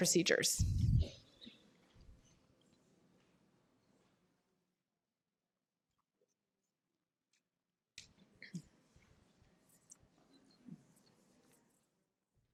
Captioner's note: pause